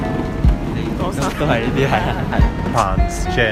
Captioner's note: laughter